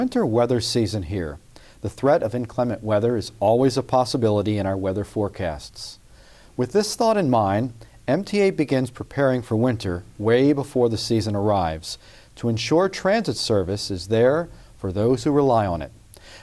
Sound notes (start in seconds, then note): none